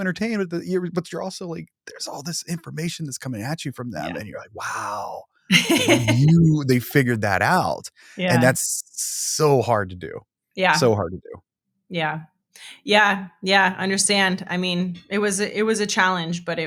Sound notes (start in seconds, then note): 5.5 laughing